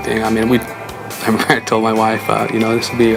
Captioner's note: laughs